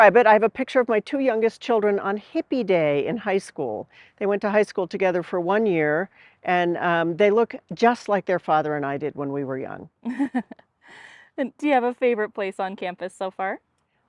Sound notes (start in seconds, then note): 10.0 laughter